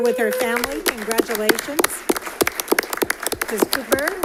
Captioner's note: all clapping